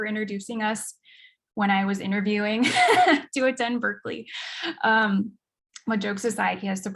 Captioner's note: chuckles